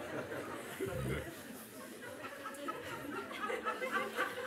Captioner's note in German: Lachen